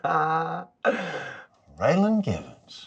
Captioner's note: laughs